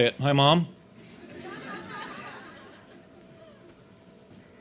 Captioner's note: audience laughing